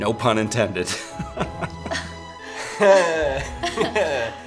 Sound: couple chuckling

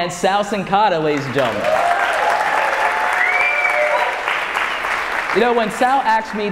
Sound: audience cheering

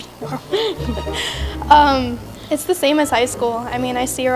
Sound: laugh

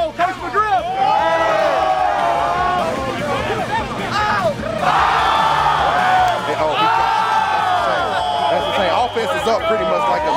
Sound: cheering

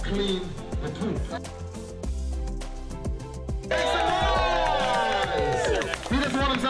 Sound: cheering

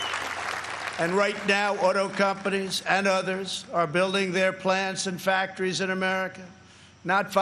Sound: applause

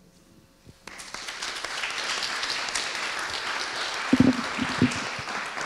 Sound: audience applauding

